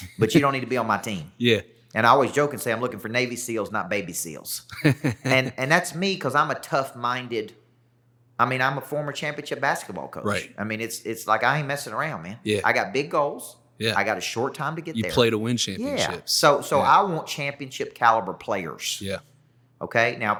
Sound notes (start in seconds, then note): 4.7 laughter